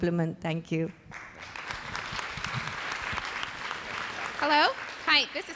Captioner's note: audience applauds